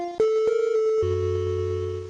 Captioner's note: beeping